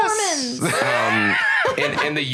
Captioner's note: laugh